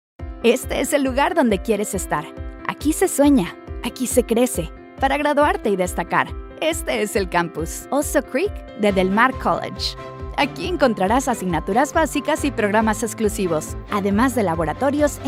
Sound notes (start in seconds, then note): 0.4 uplifting music; 1.3 announcer speaking in Spanish